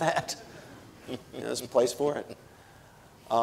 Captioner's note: audience laughing